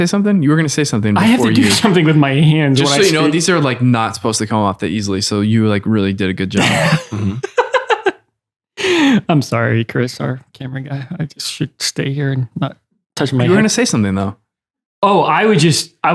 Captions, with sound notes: - Were you gonna say something? You were gonna say something before you, - I have to do something with my hands when I speak. - Just so you know, these are like not supposed to come off that easily. So you really did a good job. (laughter) - I'm sorry, Chris, our camera guy. I just should stay here and not touch my, - You were going to say something though. - Oh, I was just,